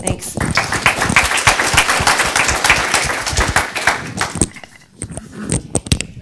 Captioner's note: applause